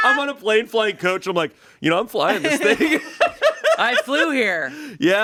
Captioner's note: laughs